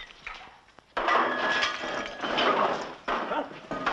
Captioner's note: glass shattering